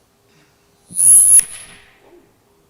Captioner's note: microphone feedback